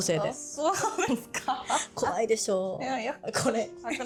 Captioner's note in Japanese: 笑い